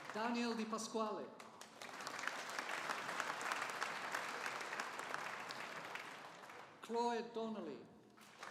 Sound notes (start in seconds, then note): 1.4 audience applauding